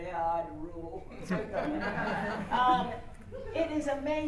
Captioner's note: laughter